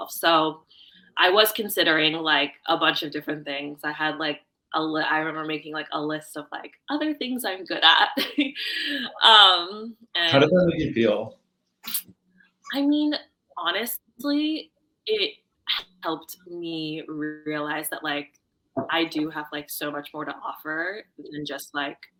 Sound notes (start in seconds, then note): 8.7 laughing